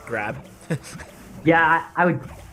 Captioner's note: laughs